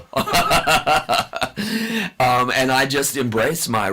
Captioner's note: laughs